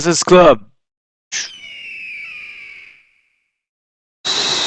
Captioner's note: high pitch roaring